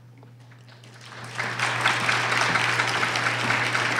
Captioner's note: applause